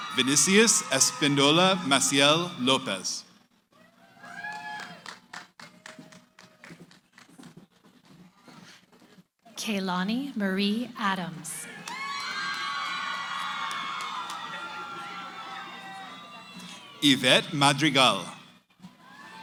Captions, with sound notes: >> Venisius Espindola Maciel Lopes. [ Applause ] >> Keilani Marie Adams. [ Cheering ] >> Ivet Madrigal.